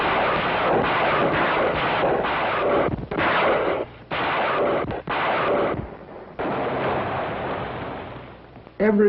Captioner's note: tanks firing